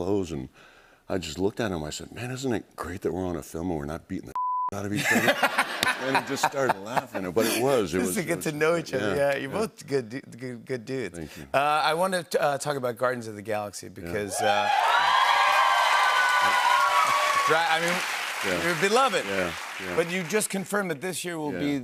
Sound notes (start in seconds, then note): 4.9 laughter; 14.3 cheers and applause